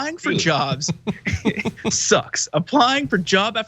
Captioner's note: laugh